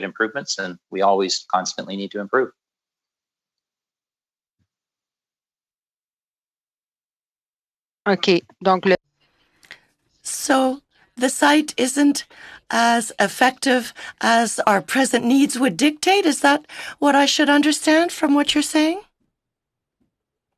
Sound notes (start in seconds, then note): 12.2 speaking French